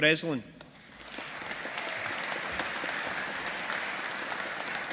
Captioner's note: audience applauding